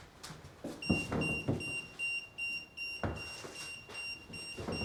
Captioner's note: EMF meter beeping